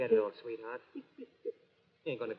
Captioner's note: sobs